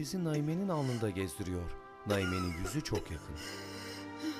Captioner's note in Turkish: Öksürük sesi